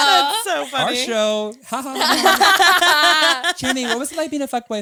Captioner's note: all laughing